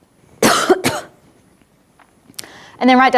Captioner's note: coughs